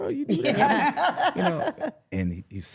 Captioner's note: laughing